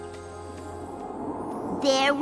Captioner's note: whistling wind